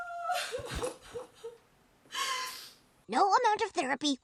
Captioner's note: sniffle